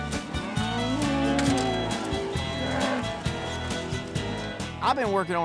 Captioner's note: mooing